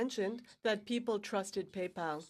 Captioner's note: speaking in french